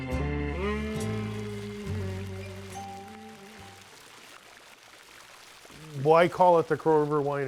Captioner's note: water running